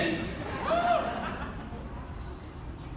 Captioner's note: audience laughter